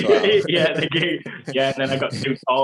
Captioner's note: laughs